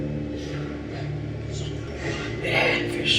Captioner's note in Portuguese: sussurra